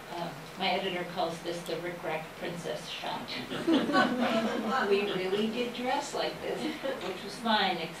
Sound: laughter

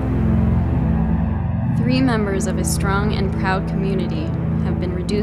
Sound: voice-over

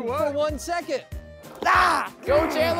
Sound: contestant yelling

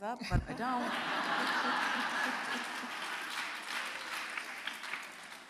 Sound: audience laughing

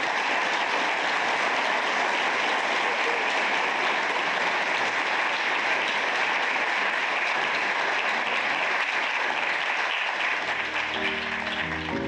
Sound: applause

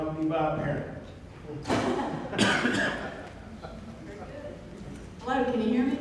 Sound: laughter from audience

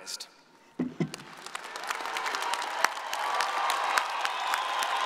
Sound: audience applauding

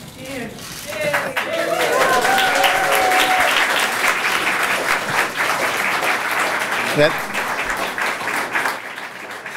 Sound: cheering/applause

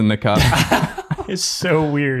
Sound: laugh

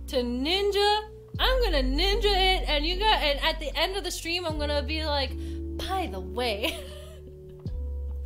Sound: laughs

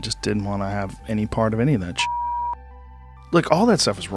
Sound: beep

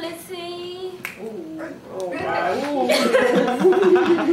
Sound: bad singing; class groans

